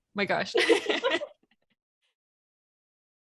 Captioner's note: all laugh